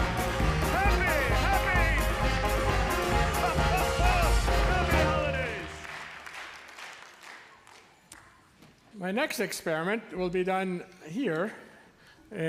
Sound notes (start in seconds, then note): 4.8 clapping